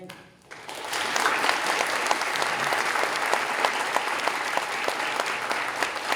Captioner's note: applause